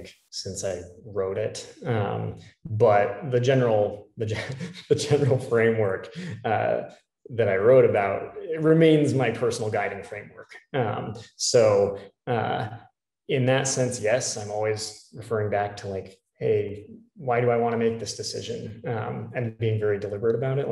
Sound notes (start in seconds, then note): 4.4 laugh